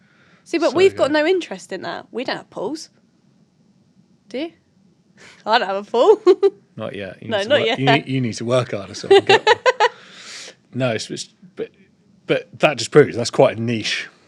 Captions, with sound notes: See but we've got no interest in that. We don't have pools. Do you? Well I don’t have a pool (laughter). Not yet, you need, you need to work harder, so I can get one. (Giggling) No, but that just proves it, thats quite niche